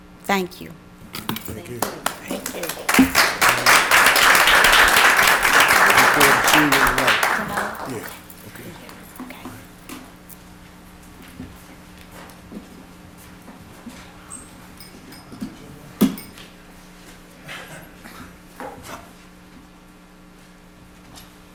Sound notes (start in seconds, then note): 6.6 applause